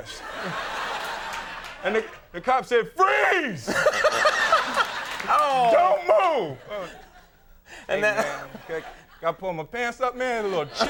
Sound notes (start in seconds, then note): 0.0 audience laughing; 3.7 everyone laughing; 7.8 laughs